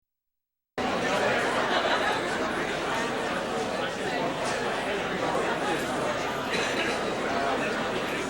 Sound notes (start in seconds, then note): 0.8 audience chattering